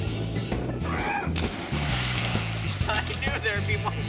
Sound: yells

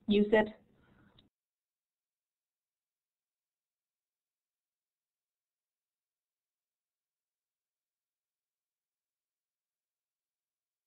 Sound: silence

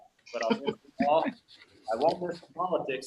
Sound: chuckling

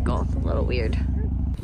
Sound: engine hums

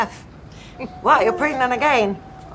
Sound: laughs

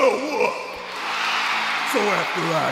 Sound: crowd cheers

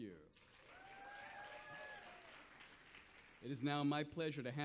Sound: audience applauds

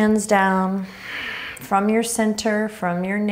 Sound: exhaling strongly

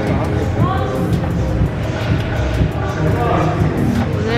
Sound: tickling

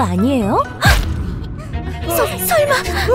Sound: both gasp

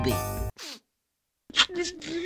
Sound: sniff

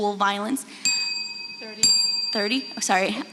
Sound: bell rings

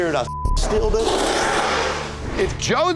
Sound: beeping

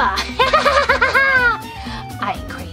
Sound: crazy laughing

